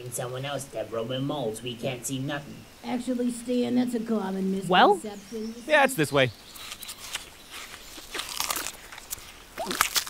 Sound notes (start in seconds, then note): 2.3 Voice 2, Deborah, muffled; 6.4 eating sounds; 6.6 footsteps from below